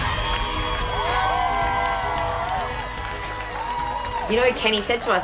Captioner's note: people clapping and cheering